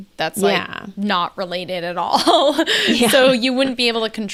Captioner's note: laughs